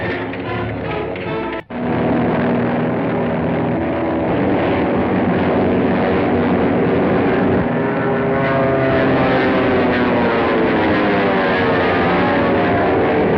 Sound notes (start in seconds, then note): 1.6 plane whirring